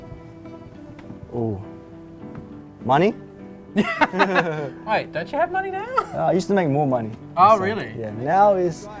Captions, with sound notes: Ooh Money (laughter) Why? Don't you have money now? I used to make more money. Oh really? Yeah, now this